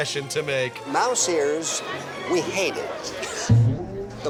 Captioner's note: chuckles